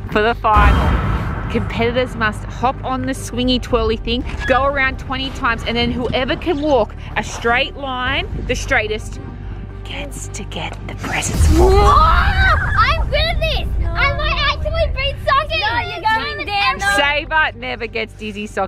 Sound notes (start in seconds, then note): 10.3 whispers